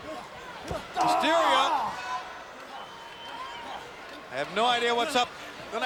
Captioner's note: wrestlers grunting